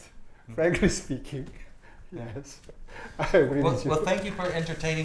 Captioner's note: laughs